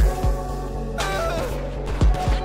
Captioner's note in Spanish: Grita de angustia